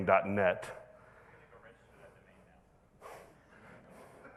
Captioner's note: man speaking off microphone; audience laughing